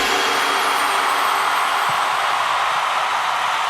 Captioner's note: crowd cheering